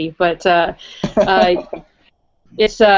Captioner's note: laugh